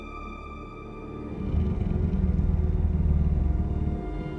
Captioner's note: suspenseful music; growling